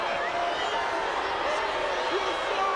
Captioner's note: audience jeers